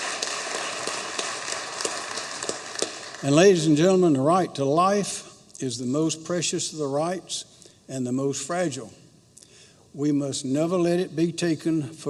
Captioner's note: applause